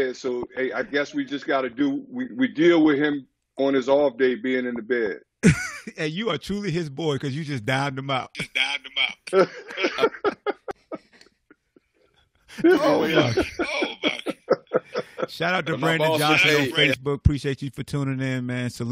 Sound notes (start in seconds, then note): 9.2 laughs; 12.5 laughter